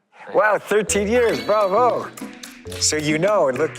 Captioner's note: bravo, applause